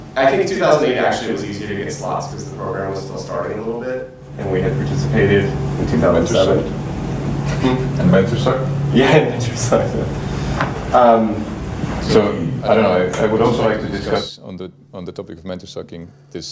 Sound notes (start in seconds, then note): 10.4 chuckles